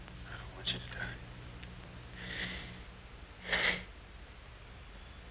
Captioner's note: sighs